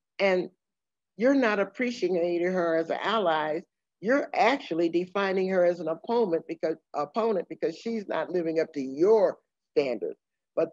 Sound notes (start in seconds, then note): none